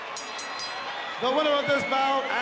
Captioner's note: bell rings